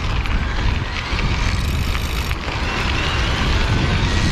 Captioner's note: motor Buzzing